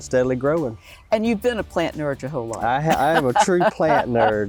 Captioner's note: laughs